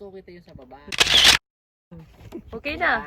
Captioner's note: camera shutter